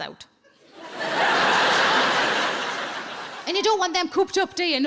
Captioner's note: audience laughing